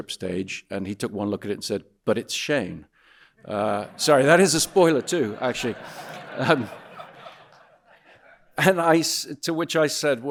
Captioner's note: audience laughing